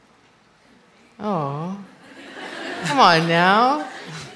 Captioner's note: laughter